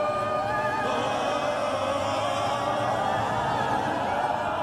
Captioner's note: dramatic Ohhhhhhh